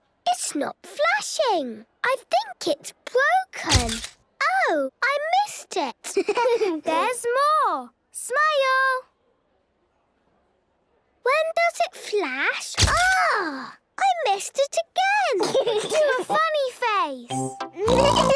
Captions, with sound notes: - It's not flashing! I think it's broken. - (camera clicks) - Oh! I missed it. - (giggling) There's more! Smile! - (silence) - When does it flash? - (camera clicks) - Agh!! I missed it again! - (giggling) - Do a funny face!